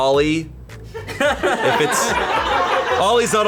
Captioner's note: colleagues laughing